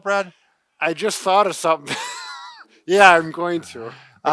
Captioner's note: laughs